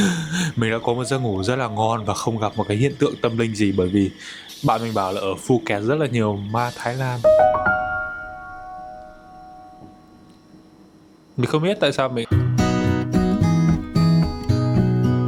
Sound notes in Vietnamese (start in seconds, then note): 0.1 tiếng cười; 9.2 chuông